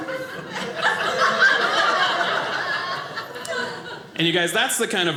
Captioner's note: audience laughing